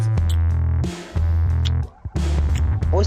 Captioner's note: a kiss